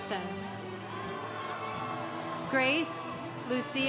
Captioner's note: congregation cheering